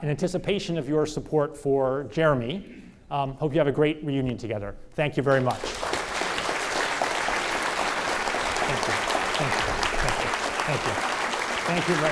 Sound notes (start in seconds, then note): 5.4 audience applause